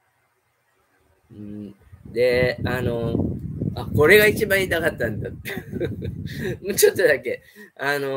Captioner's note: laughs